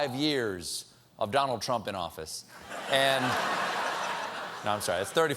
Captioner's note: laughter